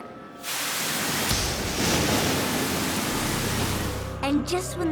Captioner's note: thunder crashes